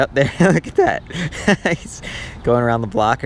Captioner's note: laughs